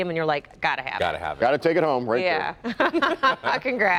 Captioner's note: laughter